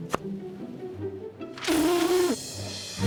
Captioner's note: blows raspberry